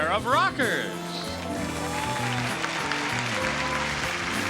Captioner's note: audience claps